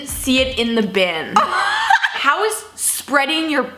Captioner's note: laughing